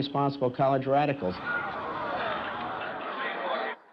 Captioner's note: students groan